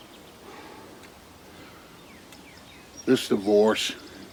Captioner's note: Jake sighing